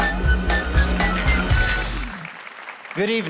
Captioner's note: applause